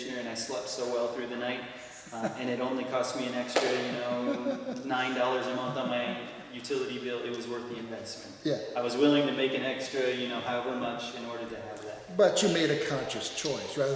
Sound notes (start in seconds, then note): 3.5 claps; 3.9 laughs